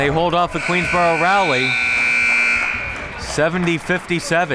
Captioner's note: buzzer sounding